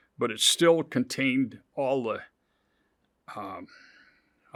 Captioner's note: none